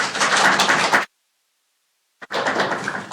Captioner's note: applause